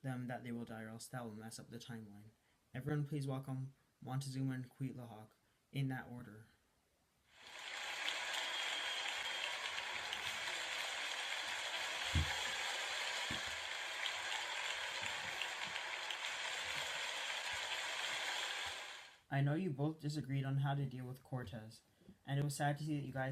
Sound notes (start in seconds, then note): 8.2 Cheers for Montezuma and Cuitlahuac